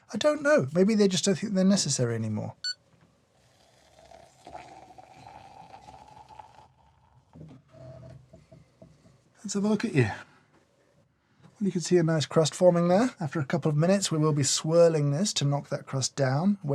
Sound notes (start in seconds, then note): 2.6 beep; 3.8 water pouring